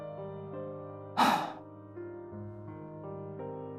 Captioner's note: sigh